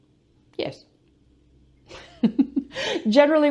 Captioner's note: laughs